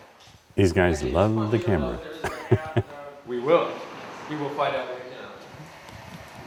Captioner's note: laugh